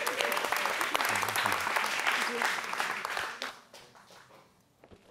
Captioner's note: audience applauds